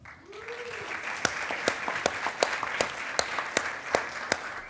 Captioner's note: attendees applauding